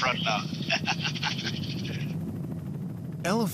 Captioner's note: pilot chuckles